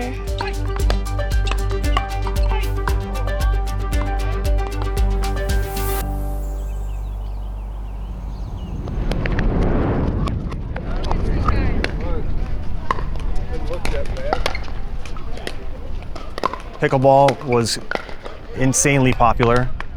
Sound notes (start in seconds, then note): 8.0 audio fast-forwarding; 13.5 court noises